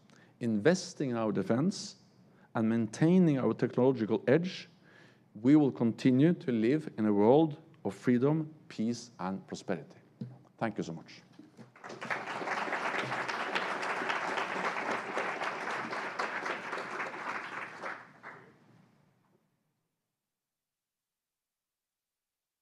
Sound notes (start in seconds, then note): 11.7 applause